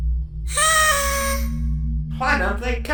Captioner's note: party horn